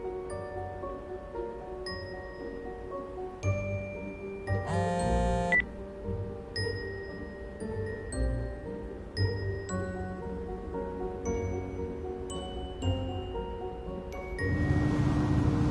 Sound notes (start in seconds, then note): 4.6 phone buzzing; 4.6 phone beeps; 12.2 mysterious music continues